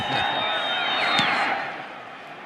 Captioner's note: laughter